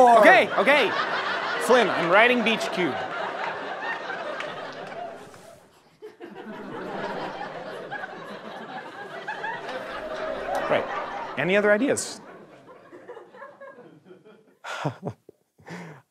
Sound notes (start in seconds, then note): 3.0 audience laughter; 5.9 light scribbling; 7.3 audience laughter; 14.5 nervous chuckle